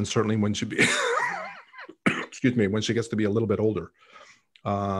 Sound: coughing

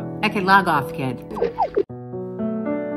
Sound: descending beeps; solemn piano music

